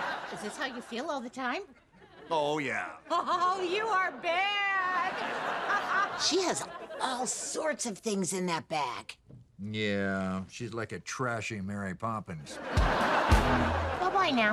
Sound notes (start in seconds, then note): 0.0 audience laughing; 4.6 audience laughing; 12.5 audience laughing; 13.2 upbeat guitar music